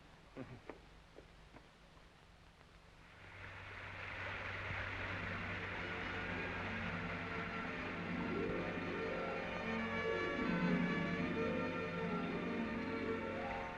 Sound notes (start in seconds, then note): 3.5 suspenseful music; 3.5 water splashing